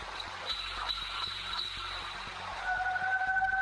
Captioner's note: clacking; howling